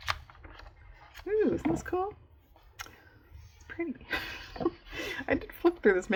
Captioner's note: laughs